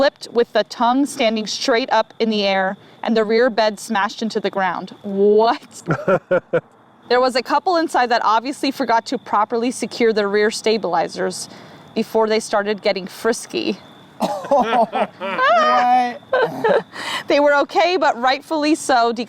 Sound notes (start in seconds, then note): 5.8 laughs; 14.2 group laughs